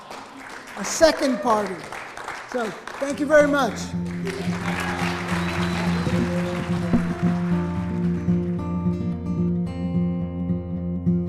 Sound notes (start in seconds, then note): 0.0 audience laughing, clapping; 4.5 audience clapping; 8.1 mellow guitar music